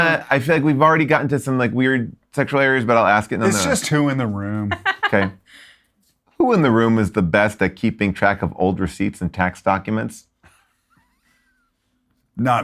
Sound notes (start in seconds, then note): 4.7 laughs; 11.3 chuckles